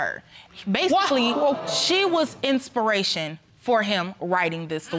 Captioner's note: audience groans